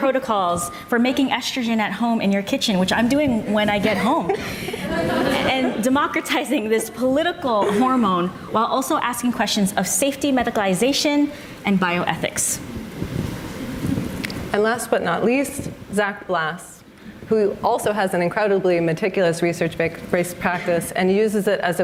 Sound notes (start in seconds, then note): 3.9 audience laughs